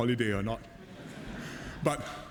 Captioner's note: laughter